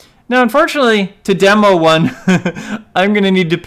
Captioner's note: laughs